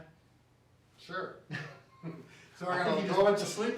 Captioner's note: chuckling